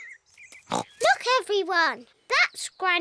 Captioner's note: oinks